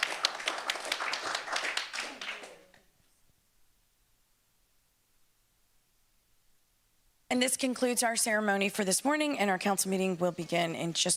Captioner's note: applause